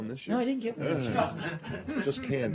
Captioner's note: laughter